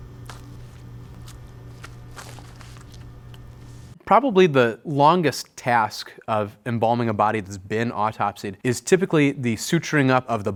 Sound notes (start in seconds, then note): 0.1 gloves rustling